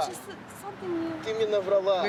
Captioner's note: speaking russian